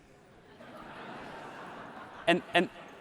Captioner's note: audience laughs